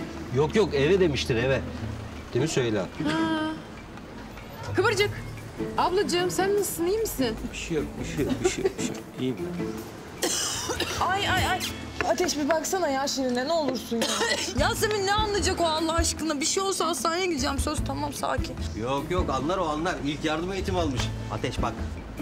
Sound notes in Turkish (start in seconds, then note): 10.1 Öksürüyor